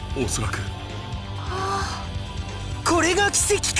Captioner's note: awkward awe